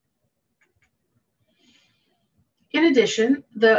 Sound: mouse clicking

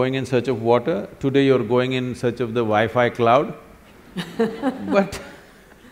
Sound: laughs

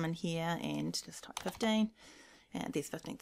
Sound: keys tapping

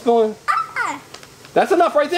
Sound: assistant yelps

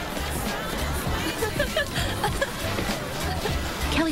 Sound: Kelly's friend laughs

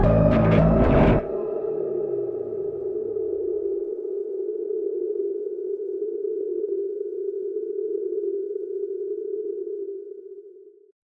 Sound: howling Wind

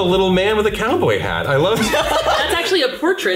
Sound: laughs

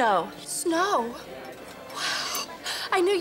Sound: whispers

